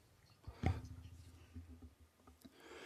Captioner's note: speaking Indigenous Language; speaking in French